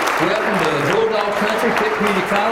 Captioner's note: applause